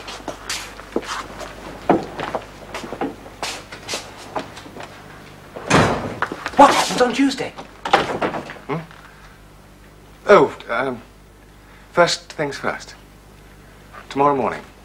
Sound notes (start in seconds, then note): 5.6 door shuts